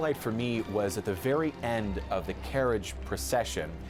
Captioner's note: cheering